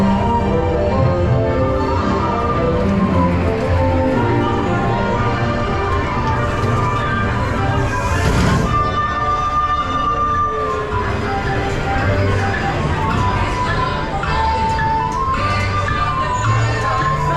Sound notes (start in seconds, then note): 12.5 tick tock, tick tock